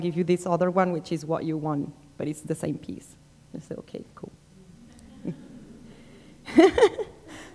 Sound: laughter

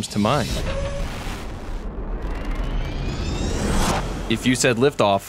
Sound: rocket blasting off

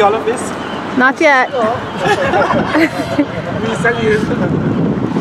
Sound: laughing

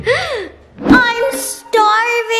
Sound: gasps

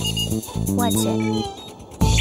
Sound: beeping

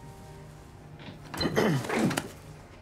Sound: clears throat

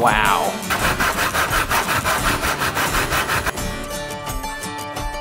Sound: sawing wood

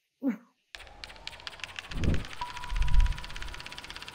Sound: film rolling

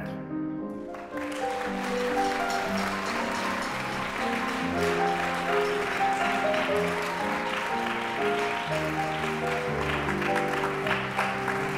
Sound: audience Applause

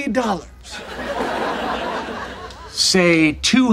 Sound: audience laughing

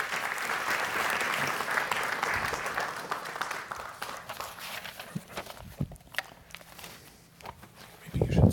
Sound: applause

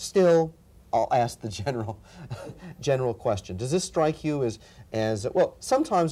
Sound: chuckles

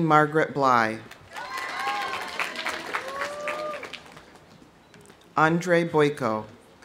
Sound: audience applauding; audience cheering

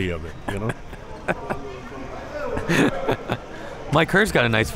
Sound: laughing

